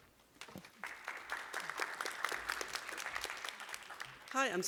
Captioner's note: applause